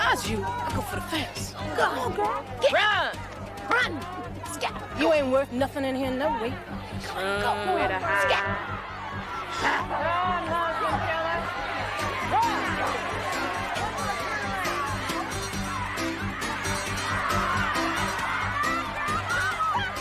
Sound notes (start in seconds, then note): 9.7 Breeze and Sondra growl; 13.6 energetic music continues; 17.1 inmates hollering